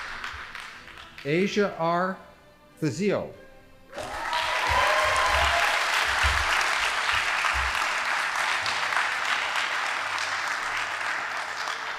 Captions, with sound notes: Asia R. Thezio. (audience applauding)